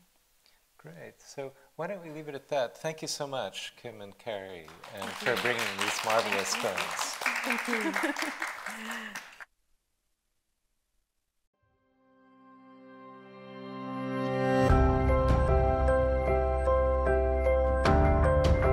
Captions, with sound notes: - Great. So why don't we leave it at that. Thank you so much, Kim and Carrie, (audience applauds) and for bringing these marvelous thoughts. - Thank you. (gentle tune plays)